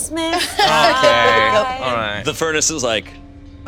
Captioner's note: all chuckling